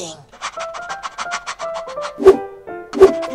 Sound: panting; whoosh

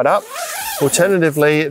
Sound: zipper pulls

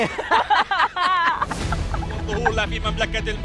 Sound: laughing

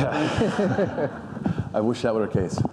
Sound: audience laughing; laughs

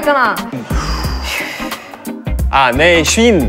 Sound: sigh

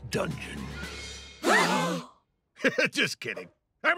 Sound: all gasp; laughs

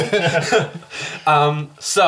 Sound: all laugh

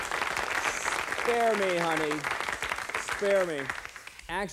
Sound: over applause

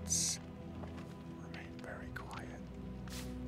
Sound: whisper

